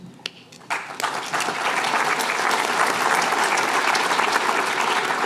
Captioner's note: applause